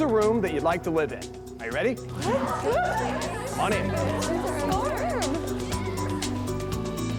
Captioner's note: contestants exclaiming